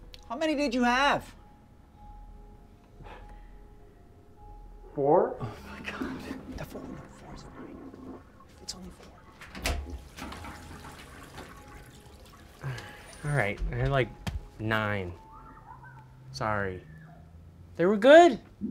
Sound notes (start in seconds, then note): 9.3 door opening; 11.2 toilet flushing; 18.4 dramatic music